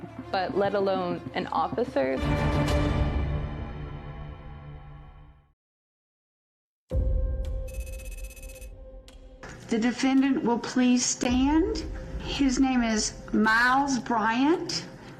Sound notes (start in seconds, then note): 2.2 tense music fading; 6.9 tense music; 7.7 text clicking